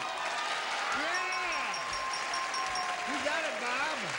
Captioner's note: audience cheers; bell ringing